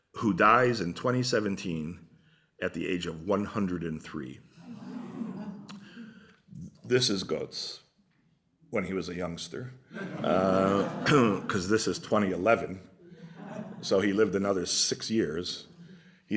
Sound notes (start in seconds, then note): 5.8 gasping; 9.9 laughter